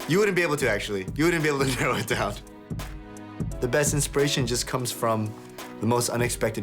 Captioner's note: laughs